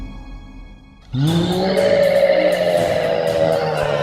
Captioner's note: roar